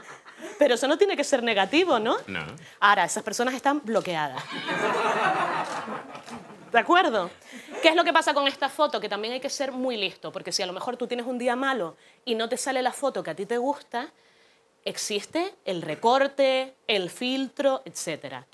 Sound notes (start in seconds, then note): 4.4 laughter